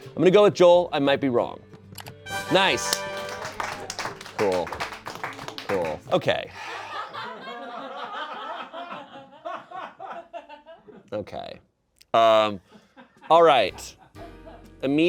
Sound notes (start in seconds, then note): 2.1 triumphant music; 2.6 audience applauding; 6.6 audience laughing